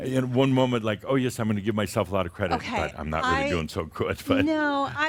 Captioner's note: Adamus chuckles